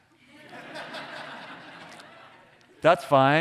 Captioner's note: audience laughing